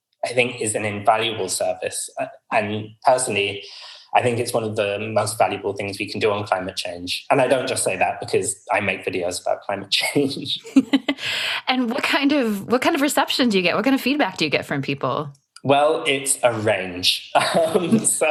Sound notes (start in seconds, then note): 10.3 laughter